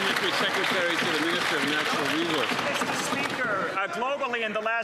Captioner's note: some Applause